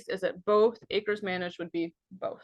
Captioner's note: none